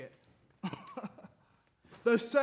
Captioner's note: laughs